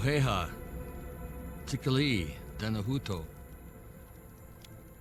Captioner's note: speaking in native language